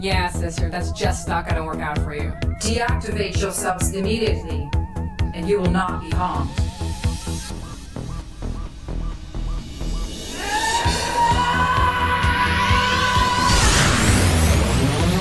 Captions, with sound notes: - Yeah sister, that's just not gonna work out for you. - Deactivate yourselves immediately and you will not be harmed. (apprehensive percussion) (Azalla shouting)